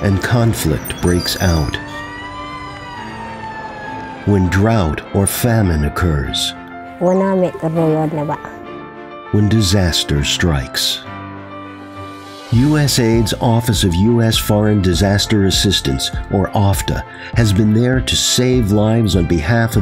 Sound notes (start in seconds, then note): 2.8 siren